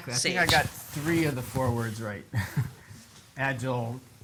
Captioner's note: chuckles